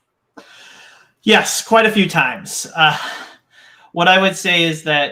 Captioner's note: laughs